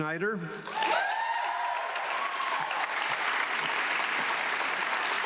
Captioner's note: audience clapping